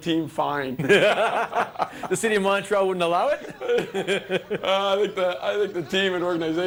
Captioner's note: laughter